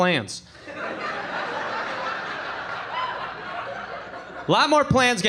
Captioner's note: audience laughing